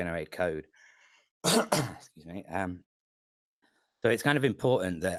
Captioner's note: coughs